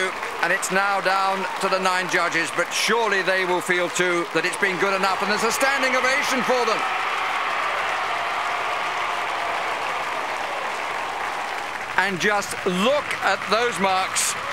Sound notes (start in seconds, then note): 6.8 crowd cheering